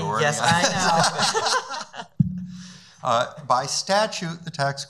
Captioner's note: laughing